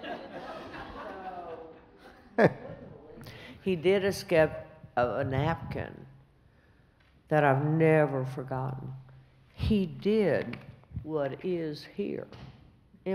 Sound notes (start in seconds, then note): 0.0 laughs